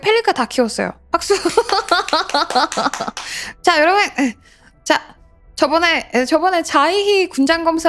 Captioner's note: applause